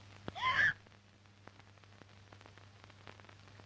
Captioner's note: screaming